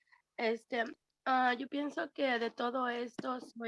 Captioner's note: Spanish